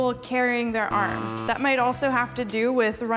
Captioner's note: buzzer buzzing